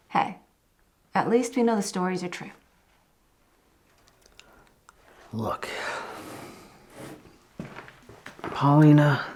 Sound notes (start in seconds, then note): 5.6 sighs